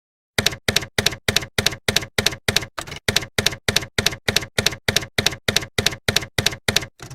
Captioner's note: typewriter keys clacking